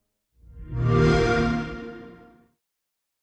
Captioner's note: xbox sound